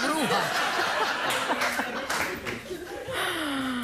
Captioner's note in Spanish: risas